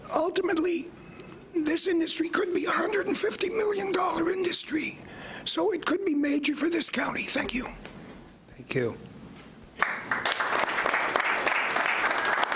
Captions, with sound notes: Ultimately this industry could be $150,000,000 industry. So it could be major for this county. Thank you. - Thank you. (clapping)